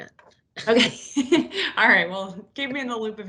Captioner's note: laughs